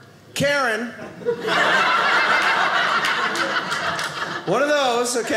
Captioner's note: audience laughing